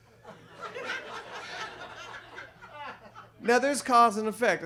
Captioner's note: audience laughs